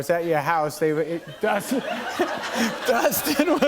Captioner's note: laughter